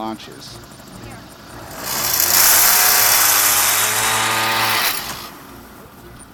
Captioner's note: scooter revs